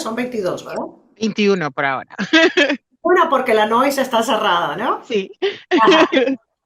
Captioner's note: risas